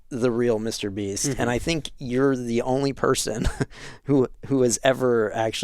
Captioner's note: laughing